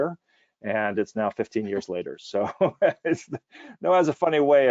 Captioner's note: hearty laughing